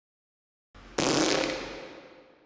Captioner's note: fart